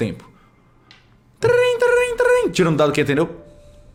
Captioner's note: phone ring sounds